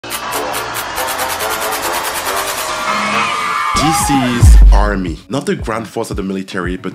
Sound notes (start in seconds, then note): 0.2 upbeat electronic music; 3.0 crowd cheering